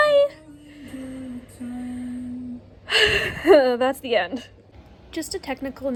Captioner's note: sighs and laughs